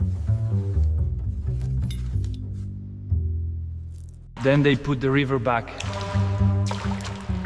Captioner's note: dirt scraping; gentle music; water splashing